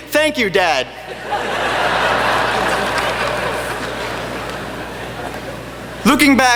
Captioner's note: laughter